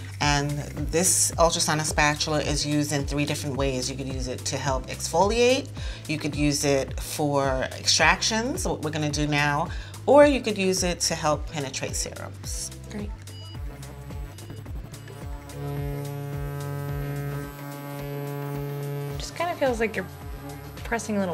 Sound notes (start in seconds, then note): 13.0 device beeping; 15.0 buzzing sound